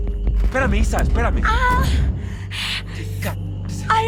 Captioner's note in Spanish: Quejidos